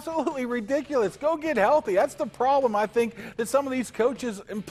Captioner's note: laughter